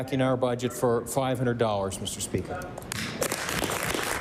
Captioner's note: applause